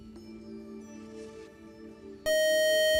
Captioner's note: time out buzzer